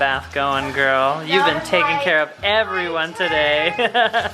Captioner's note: chuckles